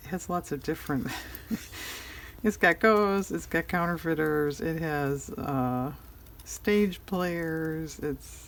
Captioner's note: laughs